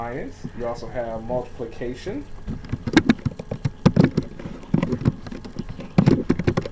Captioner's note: typing sounds